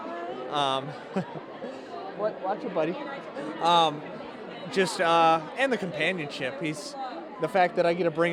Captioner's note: laughter